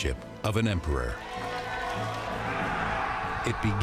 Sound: cheering

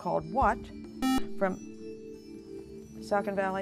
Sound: buzzer

